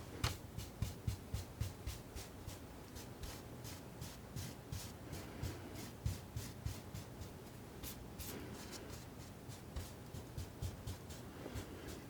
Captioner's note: scratching